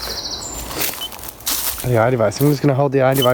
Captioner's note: beep